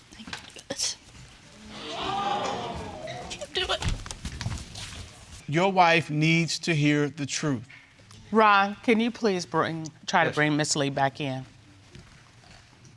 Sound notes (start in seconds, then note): 1.6 audience exclaiming; 4.4 sobbing